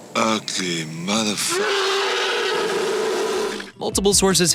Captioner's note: roar